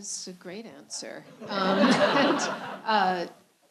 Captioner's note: laughter